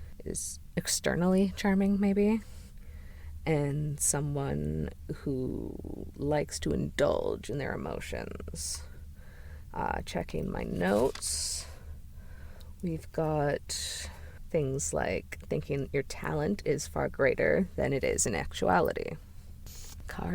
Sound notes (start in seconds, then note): 10.7 pages turning